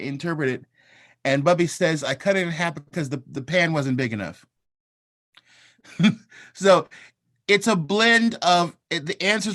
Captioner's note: laughter